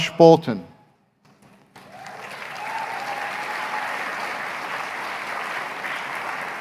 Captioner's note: applause